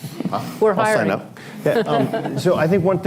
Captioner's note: laughter